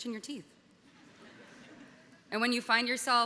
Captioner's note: audience laughing